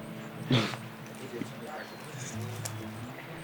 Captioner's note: chuckles